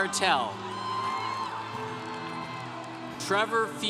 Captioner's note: congregation cheering